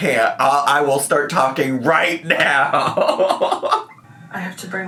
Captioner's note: laughs